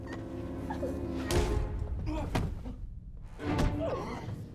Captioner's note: thud; groans; dramatic orchestral music; thuds and groans